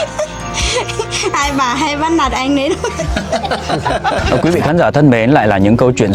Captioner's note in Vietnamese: tiếng cười